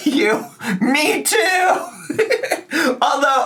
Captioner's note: laughs